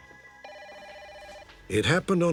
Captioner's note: phone rings